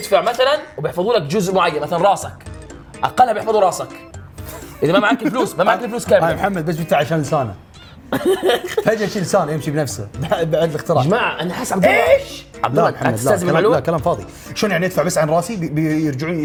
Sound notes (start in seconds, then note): 13.3 laughs